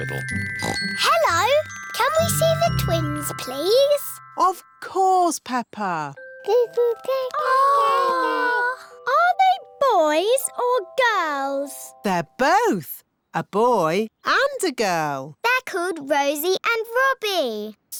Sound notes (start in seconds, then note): 0.5 oinks; 7.4 babies gurgle